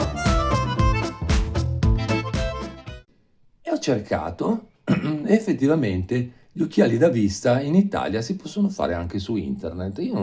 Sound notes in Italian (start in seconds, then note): 4.8 schiarire la voce